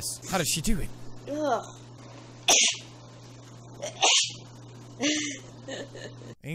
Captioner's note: sneezes again